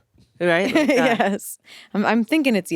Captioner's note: laughs